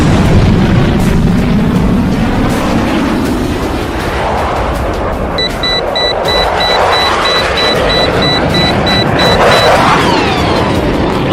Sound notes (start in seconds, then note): 5.4 warning beeping